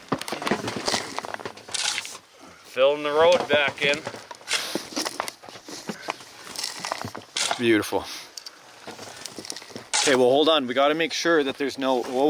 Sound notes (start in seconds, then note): 7.2 shovel scrapping